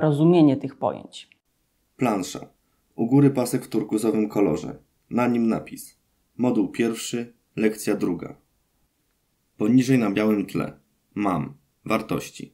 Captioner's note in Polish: Głos męski z offu, audiodeskrypcja planszy